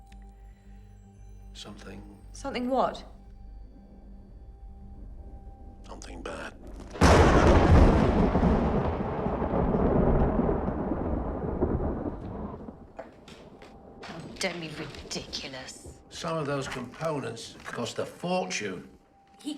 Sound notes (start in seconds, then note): 6.6 loud thundering